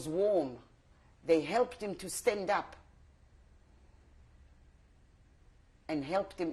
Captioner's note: pauses for 3 seconds